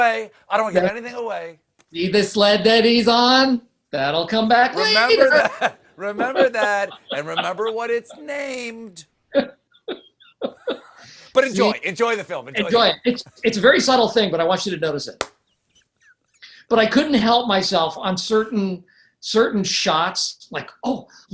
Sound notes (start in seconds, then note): 8.3 laughter